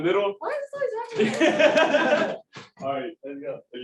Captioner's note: laughter